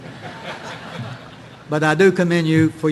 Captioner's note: audience laughing